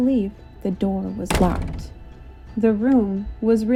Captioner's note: door closes